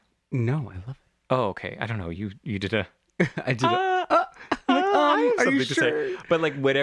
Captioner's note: laugh